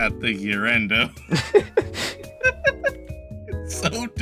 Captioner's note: both Laughing